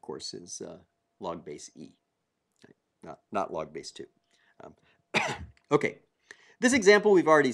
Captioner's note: cough